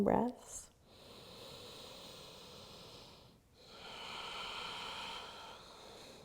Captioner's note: breathes deeply